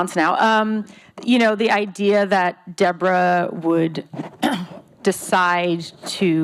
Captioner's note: clears throat